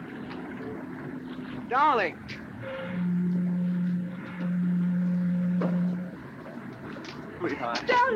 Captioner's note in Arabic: صوت البوق